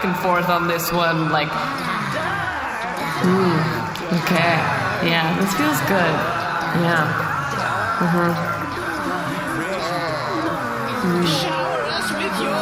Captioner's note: chanting